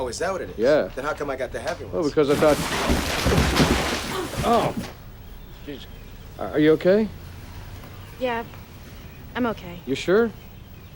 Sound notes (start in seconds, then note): 2.3 box thudding; 4.1 all groaning